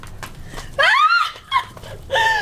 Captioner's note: Liz screams